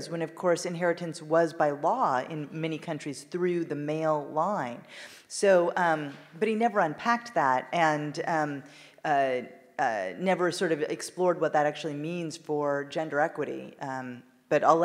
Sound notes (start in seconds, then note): none